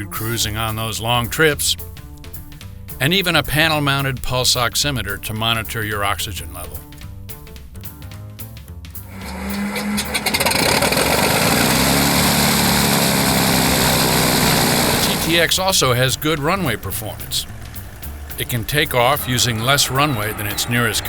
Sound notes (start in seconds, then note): 9.1 fan blades whirring loudly